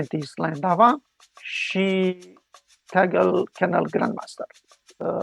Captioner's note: speaking in Romanian